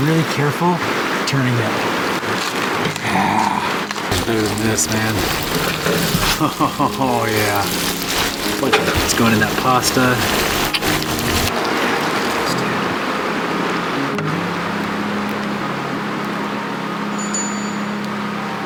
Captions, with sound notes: really careful turning it. (water splashing) Look at this, man. (water splashing) Oh, yeah. It's going in that pasta. (water splashing) (bell ringing)